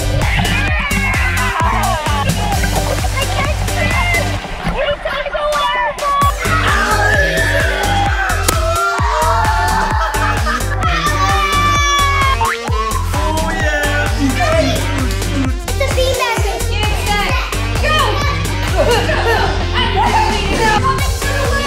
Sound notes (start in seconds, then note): 0.0 muffled water bubbling; 1.8 water bubbling; 14.2 dad mimics dance music; 18.4 indistinct cheering